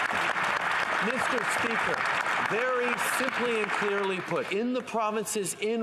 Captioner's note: some Applause